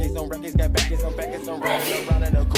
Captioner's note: aggressively sneezes